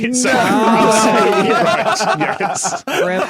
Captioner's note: guests laugh, clamour